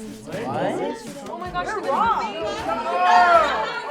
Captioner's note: kids chattering